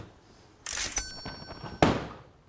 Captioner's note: plastic clinking; cash register dinging